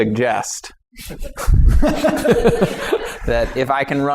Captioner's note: laughter